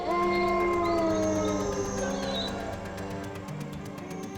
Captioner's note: moose bellowing